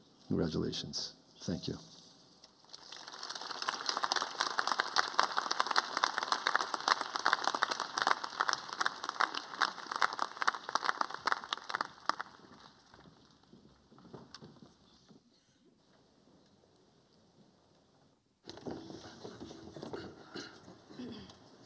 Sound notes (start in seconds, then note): 2.6 applause